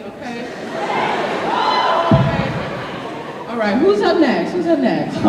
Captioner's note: cheering